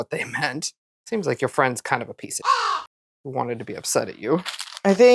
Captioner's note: caw